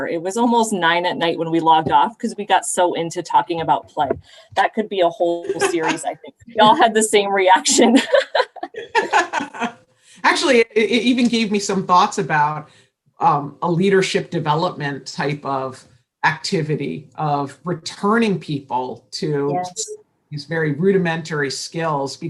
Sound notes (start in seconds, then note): 5.4 laughter; 7.7 laughter